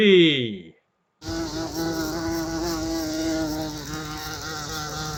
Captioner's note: sound of bee buzzing